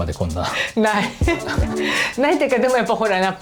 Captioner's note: laughs